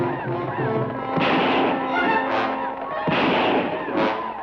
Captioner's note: guns fire